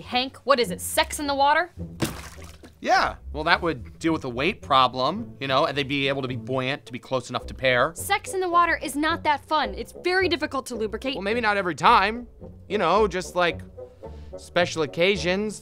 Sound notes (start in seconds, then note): 2.0 loud splash